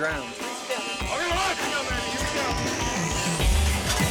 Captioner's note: all chattering